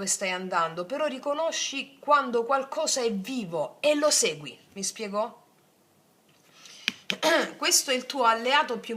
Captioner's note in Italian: schiarire la voce